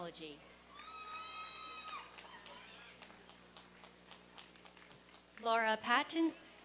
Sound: applause and cheering

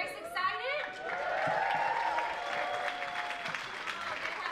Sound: audience cheers and applauds

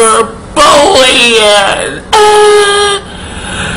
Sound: moans

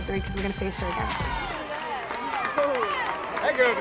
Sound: crowd Cheering

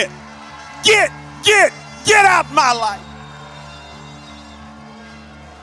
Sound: congregation shouts

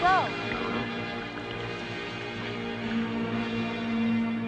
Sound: water sloshing

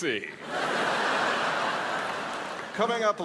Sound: crowd laughs

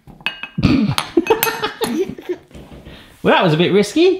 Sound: laughs

